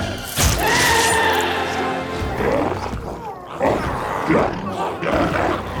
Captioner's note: dramatic music continues; glowzie shouts